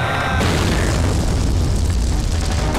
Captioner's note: Explosion